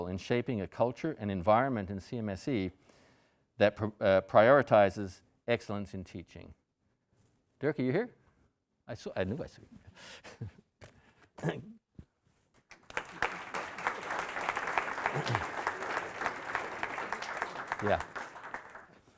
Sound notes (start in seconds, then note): 12.6 audience applauding